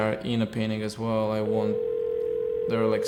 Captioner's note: dial tone ringing